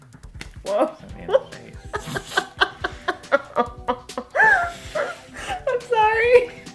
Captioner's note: laughing